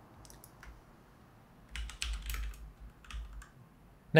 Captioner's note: keys clacking